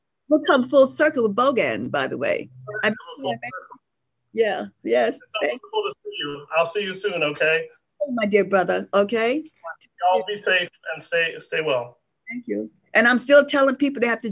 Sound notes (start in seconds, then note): 2.4 murmurs